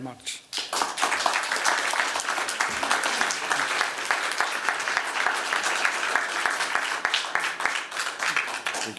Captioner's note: applause